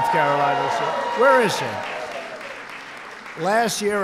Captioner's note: applause